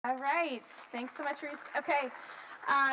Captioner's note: applause